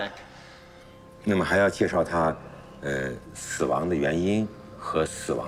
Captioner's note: speaking in foreign language